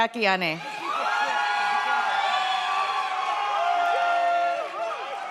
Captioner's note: audience cheers